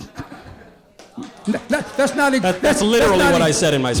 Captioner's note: audience applause